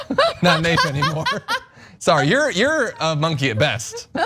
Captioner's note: laugh